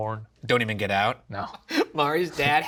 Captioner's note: laughs